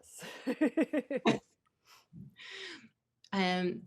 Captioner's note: laughter